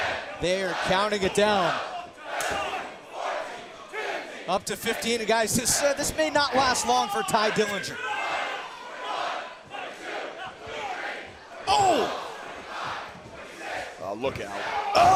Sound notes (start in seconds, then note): 1.6 crowd cheering